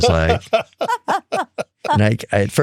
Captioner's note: laughing